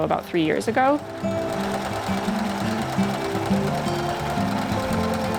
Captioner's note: sewing machine